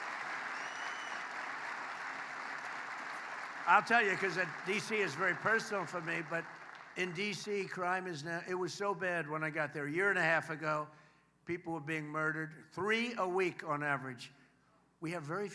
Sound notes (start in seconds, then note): 0.0 applause